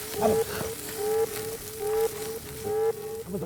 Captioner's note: skin hissing